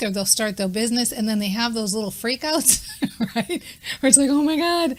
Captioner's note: laughing